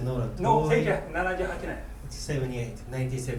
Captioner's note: speaking in foreign language